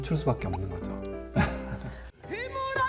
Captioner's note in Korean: 웃음